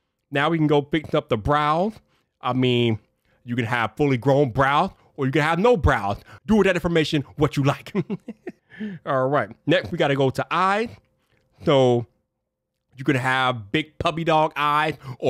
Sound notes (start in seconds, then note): 7.7 chuckles